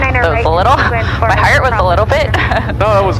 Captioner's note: laughing